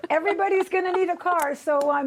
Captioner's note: laughter